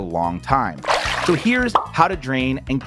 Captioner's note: water sloshing